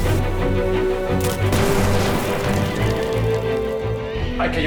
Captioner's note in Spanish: Explosión